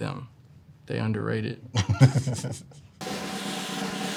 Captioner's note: laughs; cymbals crash; drum rolls